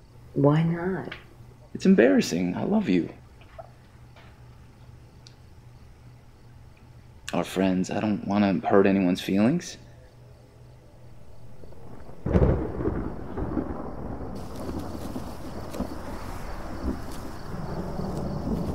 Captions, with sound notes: - Why not? - lt’s embarrassing, I love you. Our friends, I don’t wanna hurt anyone’s feelings. (thunder rumbling) (rustling)